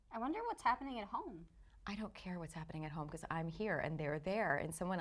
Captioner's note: none